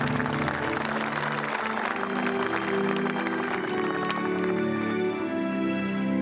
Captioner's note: applause